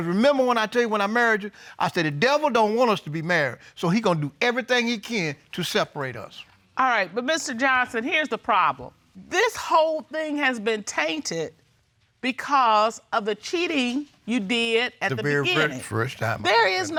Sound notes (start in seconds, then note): none